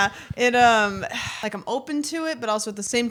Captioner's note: sighs